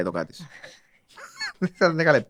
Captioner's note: he laughs; she laughs